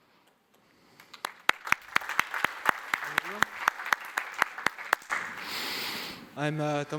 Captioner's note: applause